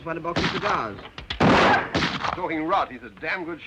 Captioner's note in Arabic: طلقات نارية